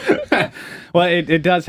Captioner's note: both laughing